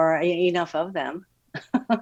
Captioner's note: chuckles